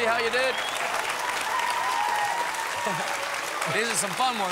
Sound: applause

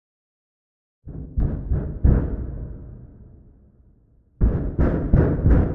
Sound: neighbor pounding on wall

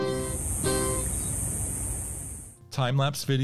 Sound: cicadas buzzing

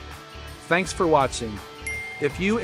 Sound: bell dinging

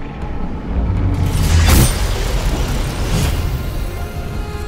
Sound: dagger plunges into the portal

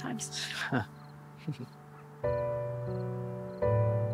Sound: both laugh

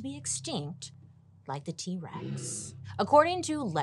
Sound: T-Rex growls

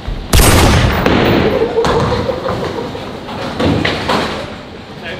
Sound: lads laughing

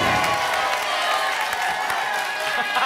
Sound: whoosh; applause and cheering cont; laughs

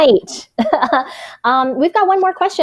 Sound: chuckles

